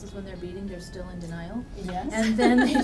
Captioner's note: laughs